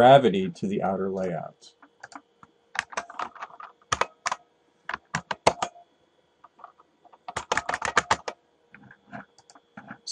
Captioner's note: typing